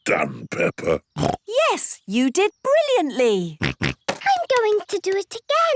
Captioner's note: snorts